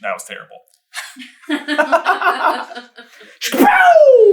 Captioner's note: team laughter